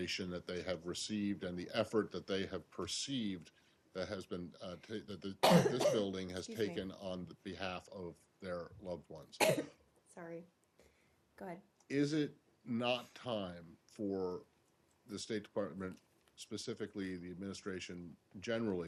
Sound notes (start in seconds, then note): 9.4 coughing